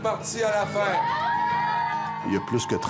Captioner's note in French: crie de joie